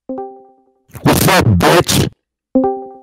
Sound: Titanic hits the Iceberg and sinks

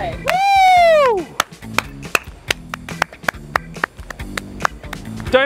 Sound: Lando clapping

